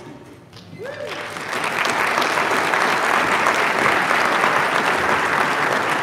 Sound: audience applauding

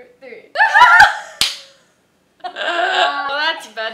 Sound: laughter

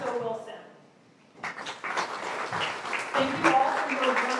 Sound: applause

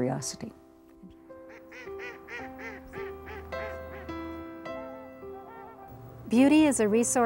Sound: gentle music; ducks calling; voiceover

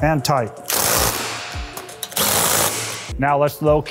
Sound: torque wrench buzzing

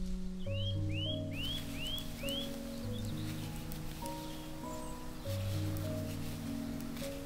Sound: birds talking

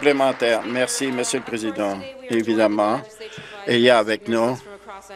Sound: applause

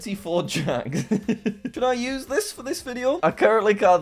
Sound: laughs

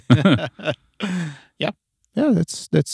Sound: laughing

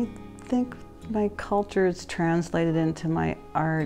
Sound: none

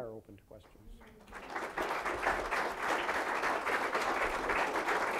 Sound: applause

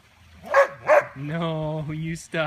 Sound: barks in protest

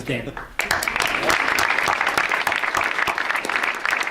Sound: audience applauds

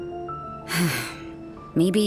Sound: sigh

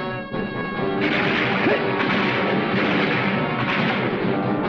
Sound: gun firing

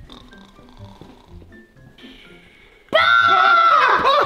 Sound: snoring

